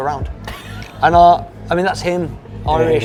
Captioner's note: laughs